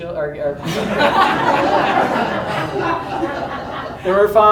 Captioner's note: audience laughs